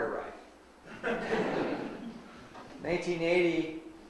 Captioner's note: audience laughs